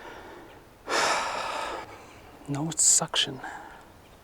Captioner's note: sighs